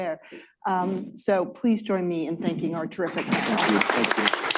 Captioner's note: applause